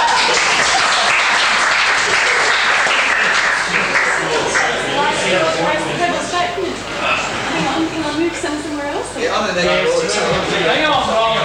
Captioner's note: clothing pulls blackboard down, audience laughs